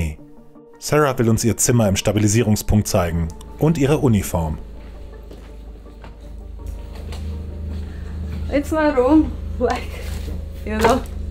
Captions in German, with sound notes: Sarah will uns ihr Zimmer im Stabilisierungspunkt zeigen. Und ihre Uniform. (Ernste Musik) (englisch:)